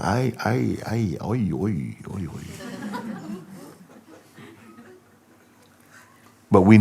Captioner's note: laughter